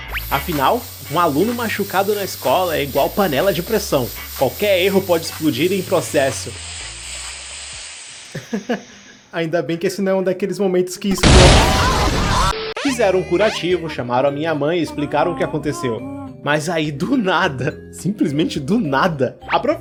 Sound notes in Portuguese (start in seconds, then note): 11.1 explosão